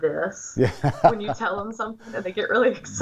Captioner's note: laughing